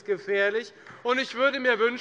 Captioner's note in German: Beifall bei Abgeordneten der FDP und der SPD